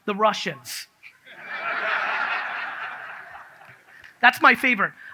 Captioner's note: audience laughs